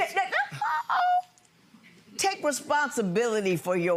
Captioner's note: judge stammers